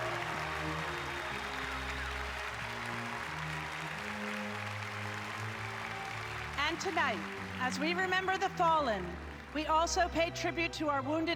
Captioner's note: applause